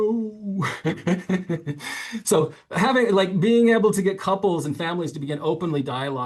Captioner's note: laughs